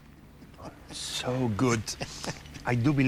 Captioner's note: chuckles; chuckles